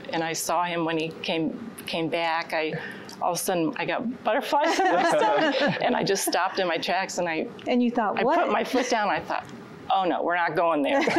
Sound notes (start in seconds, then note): 4.6 laughter